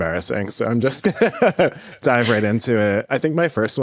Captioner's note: laughs